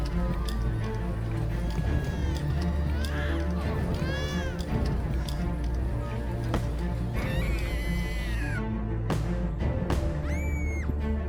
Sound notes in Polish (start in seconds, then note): 1.5 płacz niemowlęcia; 7.2 krzyki młodej dziewczyny